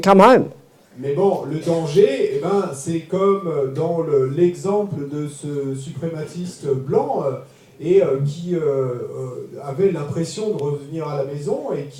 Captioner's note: French